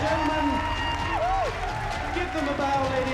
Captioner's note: whooping